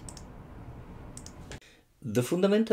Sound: screen tapping

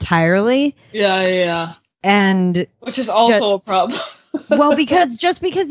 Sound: laughs

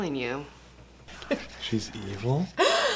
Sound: whispering

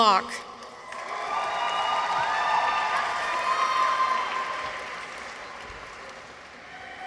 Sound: audience applauds; people cheer

